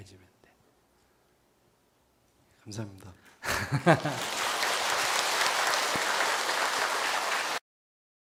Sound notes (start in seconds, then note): 3.4 laughter; 6.5 applause